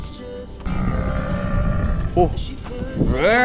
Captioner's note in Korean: 기괴한 사운드